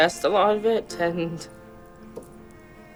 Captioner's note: welling up